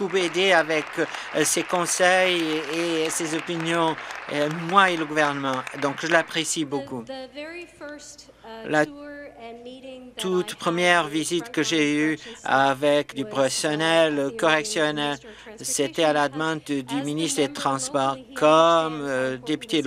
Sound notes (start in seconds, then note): 4.5 applause